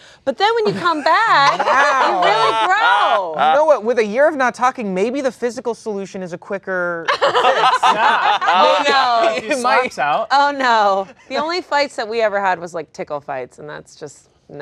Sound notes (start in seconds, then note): 7.1 laughing